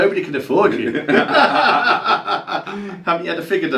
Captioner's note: both laugh